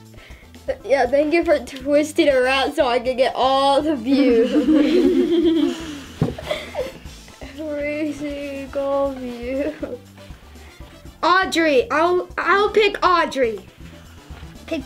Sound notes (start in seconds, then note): 4.1 laughs